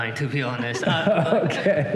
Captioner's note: laughter